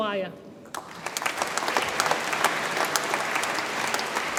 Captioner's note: audience applauds